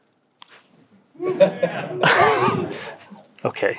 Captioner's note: audience laughs